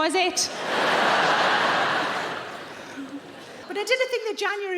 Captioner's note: audience laughing